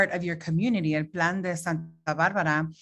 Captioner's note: speaking Spanish